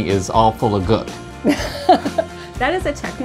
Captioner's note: laughs